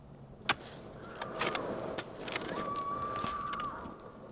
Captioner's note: woman screaming